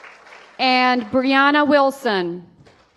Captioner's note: applause